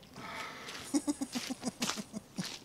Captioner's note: laughter off-camera